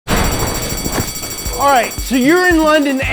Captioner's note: alarm bell ringing